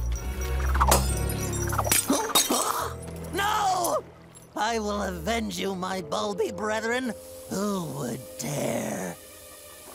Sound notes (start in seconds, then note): 0.1 glass shattering